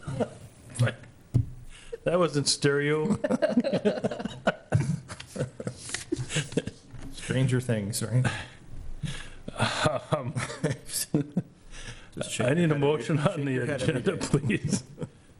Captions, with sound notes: (laugh) That was in stereo (Board members laughing) Stranger things right, (laugh) I need a motion on the agenda please (laugh).